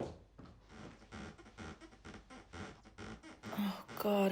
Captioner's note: bedsprings squeaking